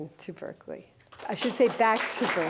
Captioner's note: applause